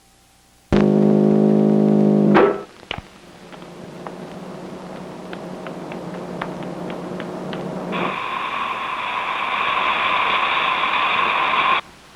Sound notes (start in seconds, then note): 8.1 gas whooshing